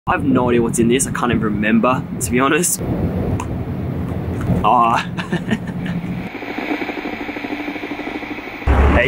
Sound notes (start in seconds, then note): 2.9 plastic snaps open; 4.9 laughs; 6.0 static popping